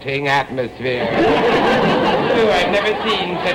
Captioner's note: audience laughter